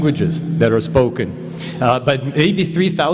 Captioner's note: none